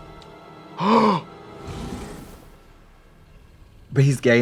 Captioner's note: Trixie gasps